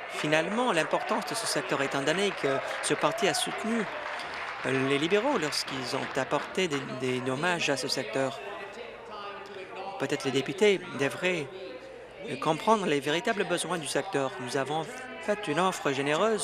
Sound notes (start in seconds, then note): 7.1 applause